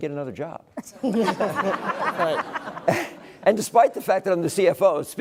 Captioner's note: laugh